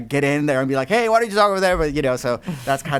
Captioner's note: voice muffled